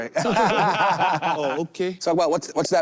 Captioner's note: group laughs